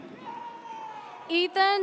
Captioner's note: audience cheers